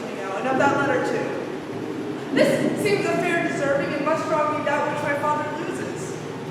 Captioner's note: faint thunder